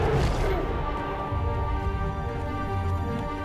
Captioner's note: dinosaurs Roaring